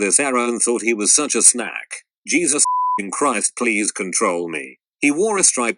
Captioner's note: beeping